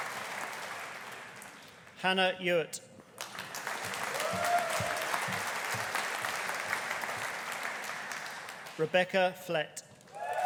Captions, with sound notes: Hannah Ewart. (AUDIENCE APPLAUDING) (AUDIENCE CHEERING) Rebecca Flett.